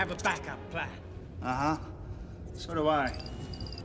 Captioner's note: beeping